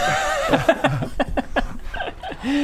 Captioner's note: mischievous giggles